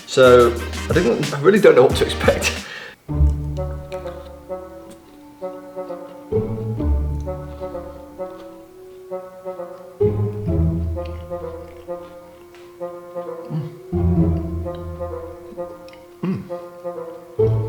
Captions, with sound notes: So I really don't know what to expect. (laughing) (whimsical music) Mm.